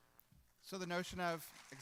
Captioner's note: applause